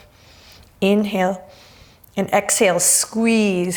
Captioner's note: deep breaths